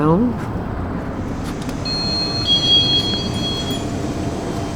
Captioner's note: bell ringing